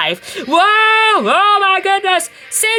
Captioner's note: Thomas and David screaming